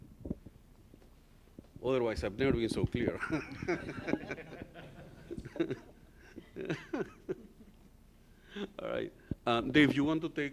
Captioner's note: laughter